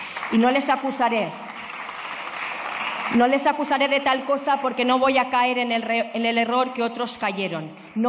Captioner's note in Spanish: Aplausos